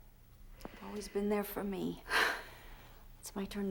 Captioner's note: sighs